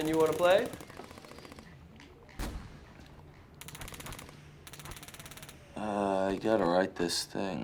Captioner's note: gunfire rattling from video game